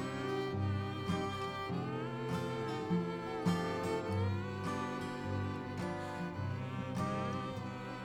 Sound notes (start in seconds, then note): 1.8 melancholic guitar music; 1.8 singer humming